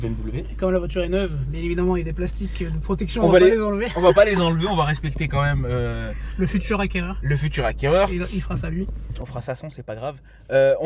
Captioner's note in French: rires